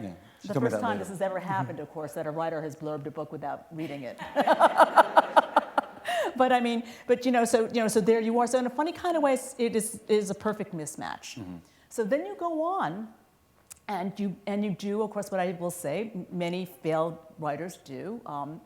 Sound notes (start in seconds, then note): 4.1 laughter